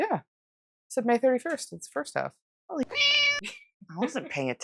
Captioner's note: meow